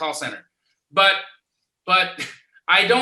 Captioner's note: laughs